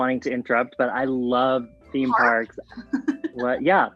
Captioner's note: laughs